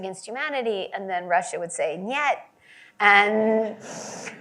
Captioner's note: Russian language